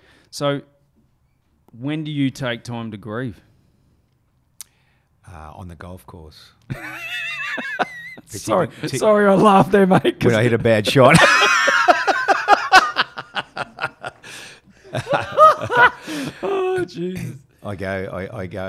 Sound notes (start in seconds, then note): 6.7 chuckling; 11.1 laughing